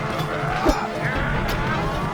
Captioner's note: metal clanging